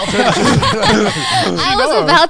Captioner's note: everyone laughing